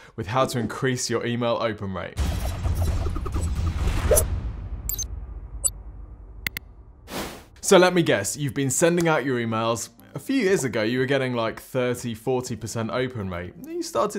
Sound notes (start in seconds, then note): 2.2 dramatic music; 4.5 logo whooshes